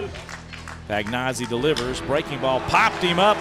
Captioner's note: voiceover